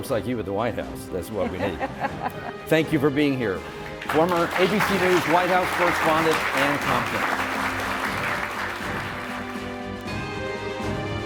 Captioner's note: applause